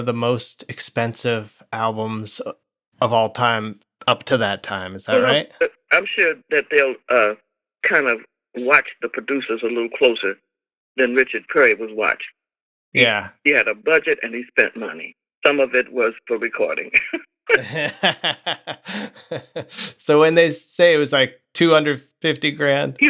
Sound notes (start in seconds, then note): 17.5 laughter